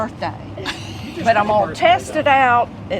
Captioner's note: laughs